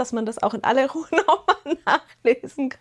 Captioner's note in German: gelächter